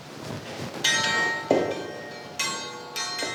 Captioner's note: bright metallic clanging